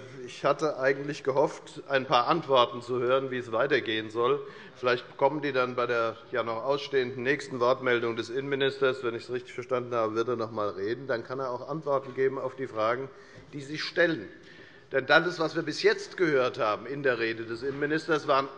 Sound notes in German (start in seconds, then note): none